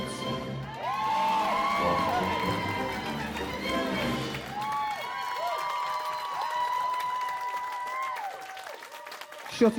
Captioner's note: cheering